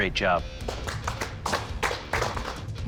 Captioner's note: clapping